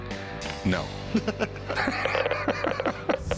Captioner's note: laughter